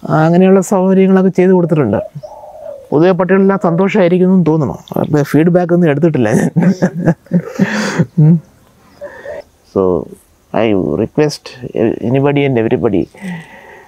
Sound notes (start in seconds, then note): 6.2 laughs